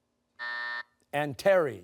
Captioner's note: buzzer